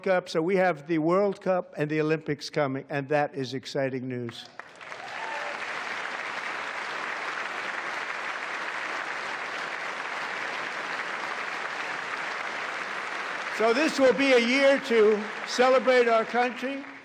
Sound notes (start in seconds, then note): 1.4 applause